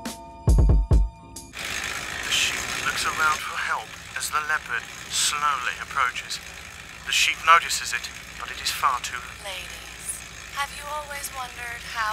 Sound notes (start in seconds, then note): 1.8 exercise bike noises; 3.7 voice On T.V